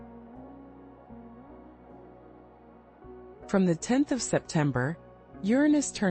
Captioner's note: pause